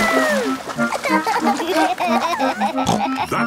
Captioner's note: giggling; snorts